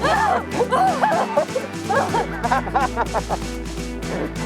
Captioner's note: laughs